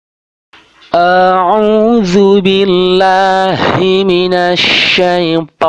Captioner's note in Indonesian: dalam bahasa Arab